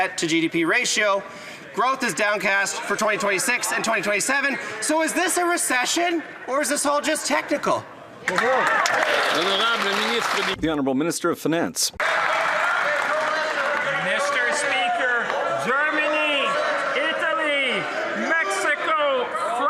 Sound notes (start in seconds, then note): 13.5 some Applause; 14.6 speaking French